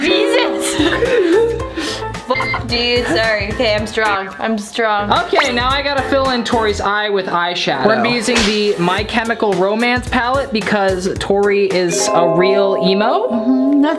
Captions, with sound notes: (beep) dude, sorry. Okay, I'm strong, I'm strong. - Okay, now I got to fill in Tori's eye with eyeshadow. We're going to be using the My Chemical Romance palette because Tori is a real emo.